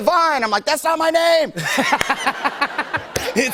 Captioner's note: laughter